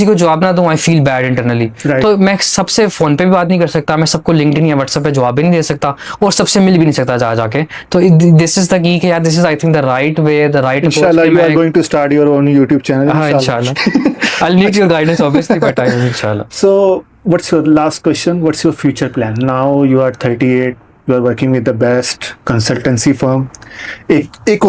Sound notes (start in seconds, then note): 16.3 laughs